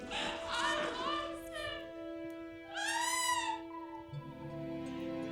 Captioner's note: cries out; soft dramatic music